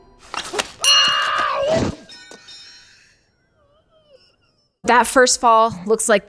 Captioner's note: bell dings; Harry screams